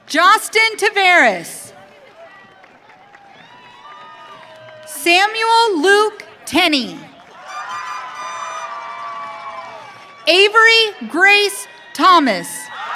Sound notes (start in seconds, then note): 1.7 audience cheering; 7.0 audience cheering